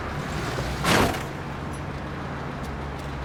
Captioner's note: car thump